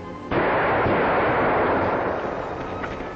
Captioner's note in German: Schuss feuert